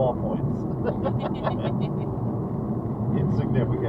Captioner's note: both laughing